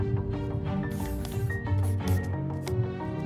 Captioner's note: pencil scratching against a paper